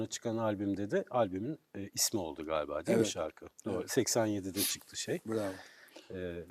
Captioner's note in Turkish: homurdanır